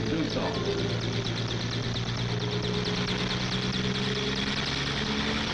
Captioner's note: helicopter whirs